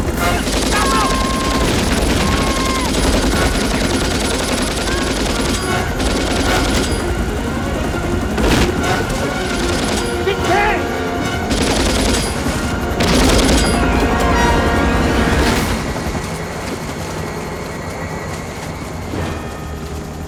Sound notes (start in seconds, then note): 0.1 Shouting In Korean; 4.3 shouts